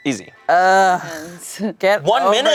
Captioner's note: groans